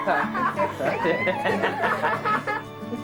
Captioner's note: all laughing